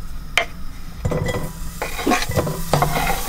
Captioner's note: food hisses in the pot